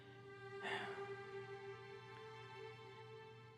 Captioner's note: John sighs